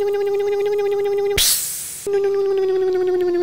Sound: electric motor hum; hiss; electric motor hum

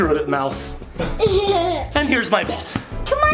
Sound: laughing

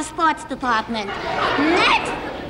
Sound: audience laughs

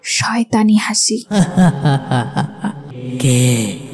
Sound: jinn laugh

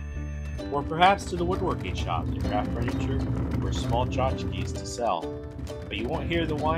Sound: hand tool sounds

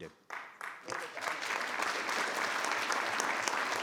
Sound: audience clapping

